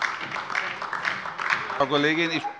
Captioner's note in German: Beifall DIE LINKE